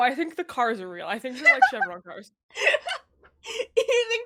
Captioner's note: laughs